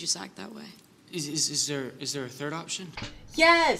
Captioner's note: Livecup, stammering